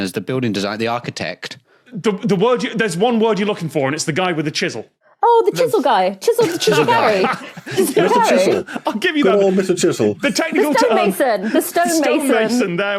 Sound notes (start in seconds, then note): 6.3 laughs